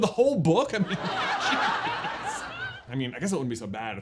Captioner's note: totally realistic background laughter